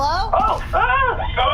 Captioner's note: startled noises from the crew